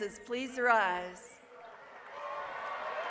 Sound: applause

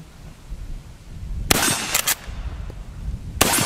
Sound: gun fires

